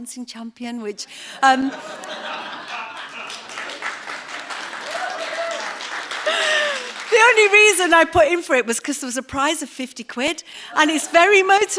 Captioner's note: applause